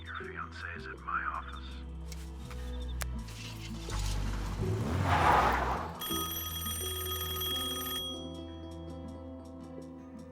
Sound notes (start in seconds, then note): 5.6 tires screech; 6.0 telephone rings